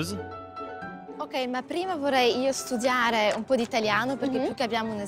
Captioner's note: speaks in Italian